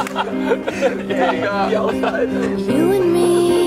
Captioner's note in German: Gelächter